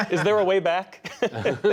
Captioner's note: laughter